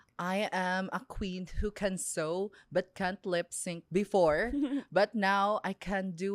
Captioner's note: laughs